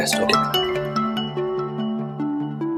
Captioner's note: mobile phone rings